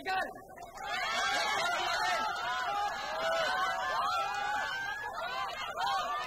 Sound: crowd cheering

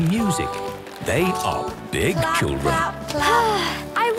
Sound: Belinda sighing

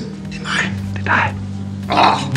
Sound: whispers

